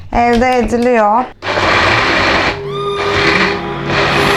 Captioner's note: blender